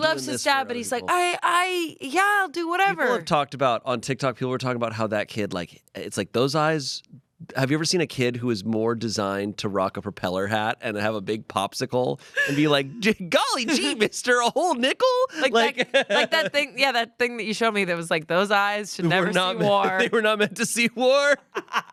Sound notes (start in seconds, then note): 15.3 laughs